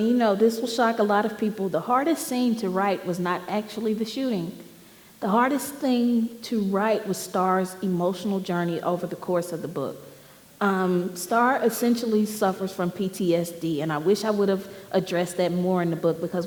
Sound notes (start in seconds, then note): none